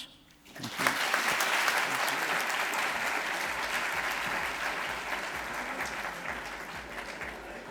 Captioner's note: applause